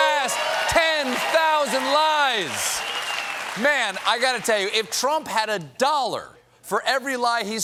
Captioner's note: cheers and applause